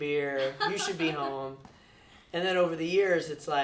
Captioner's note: laughs